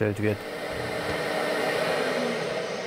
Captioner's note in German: Dröhnende Geräusche